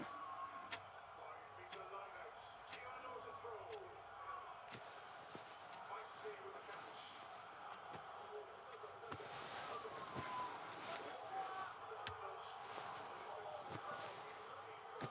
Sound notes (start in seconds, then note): 0.7 clicking clock